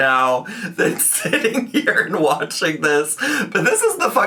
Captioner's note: laughing